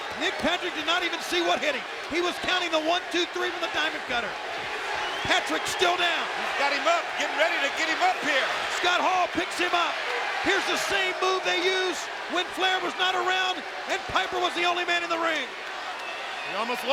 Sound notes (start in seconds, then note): 4.9 audience cheering